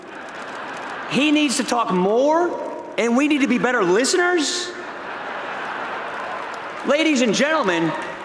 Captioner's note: laughter